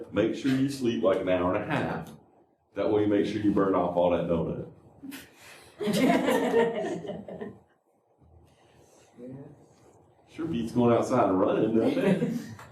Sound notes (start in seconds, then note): 5.8 laughter